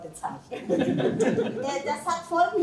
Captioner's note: laughter